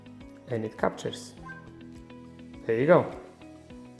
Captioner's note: phone dings